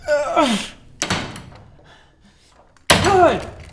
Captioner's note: groaning; thudding